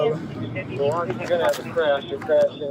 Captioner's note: radio chatter